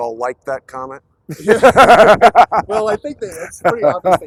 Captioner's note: laughter